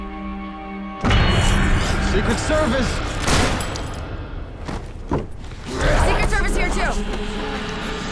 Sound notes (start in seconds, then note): 3.2 gunshot; 5.6 zombie growling